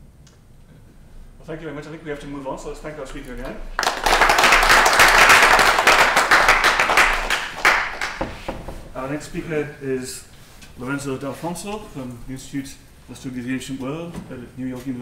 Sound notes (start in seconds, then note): 3.7 applause